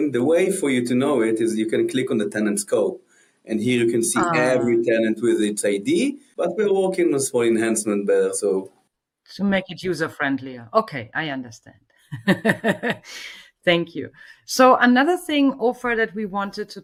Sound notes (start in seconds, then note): 12.1 laughs